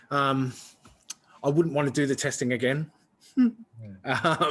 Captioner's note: laughs